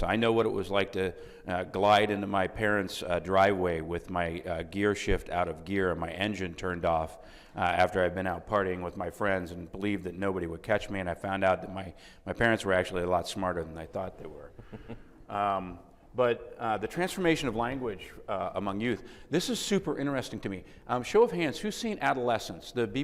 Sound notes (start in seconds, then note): 15.2 clucking